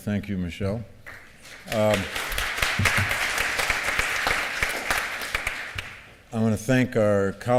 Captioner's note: applause